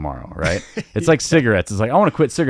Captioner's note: laughing amusingly